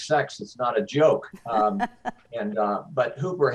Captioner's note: laughs